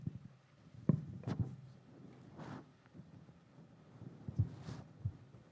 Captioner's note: microphone rustles